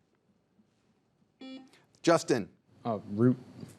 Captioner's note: buzzer beeps